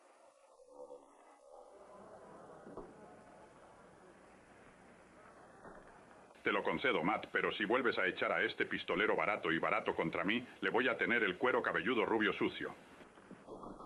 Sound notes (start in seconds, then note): 1.6 crowd chattering